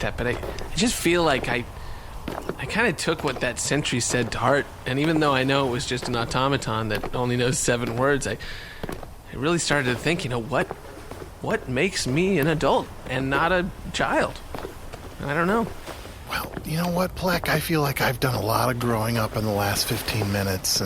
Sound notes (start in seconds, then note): 8.9 sigh